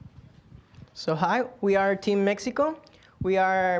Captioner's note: with Mexican accent